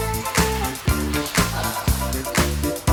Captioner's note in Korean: 첨벙첨벙